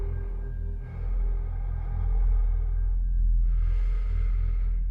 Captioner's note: breath huffing